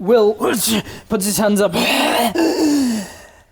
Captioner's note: hrghh!